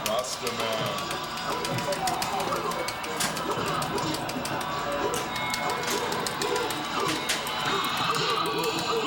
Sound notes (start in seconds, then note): 2.6 fighters grunting; 2.6 upbeat music continues